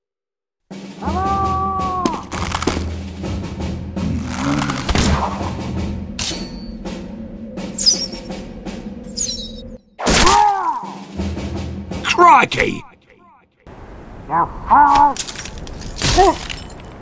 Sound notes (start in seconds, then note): 4.1 Sniper grumbles; 10.1 Pyro cries in pain; 15.1 sounds of flesh and glass